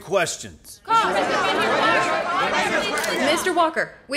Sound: reporters clamoring

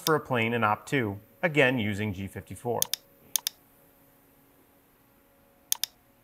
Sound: mouse clicking

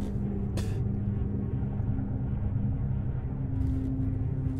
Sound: Sean spits

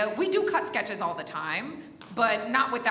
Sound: none

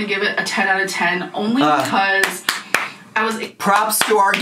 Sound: snapping and clapping

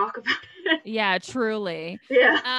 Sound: laughs

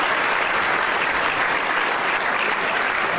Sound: applause

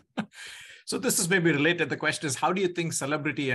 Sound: chuckling

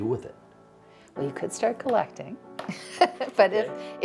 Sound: laughing

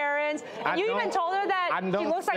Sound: audience murmurs

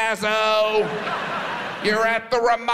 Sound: audience laughs

